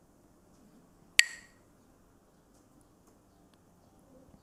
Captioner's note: Mooji clacks the sticks